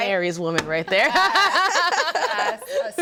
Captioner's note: group laughs; laughs